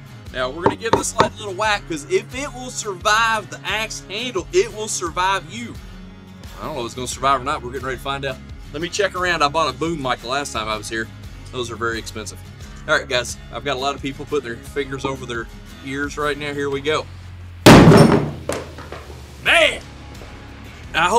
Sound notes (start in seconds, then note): 17.7 wooden thud